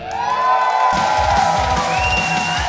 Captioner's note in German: Jubel, Applaus